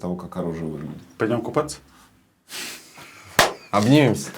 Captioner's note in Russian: усмехается